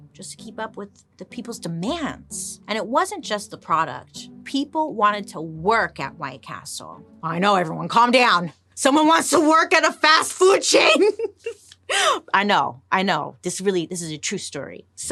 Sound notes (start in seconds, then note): 10.7 laughing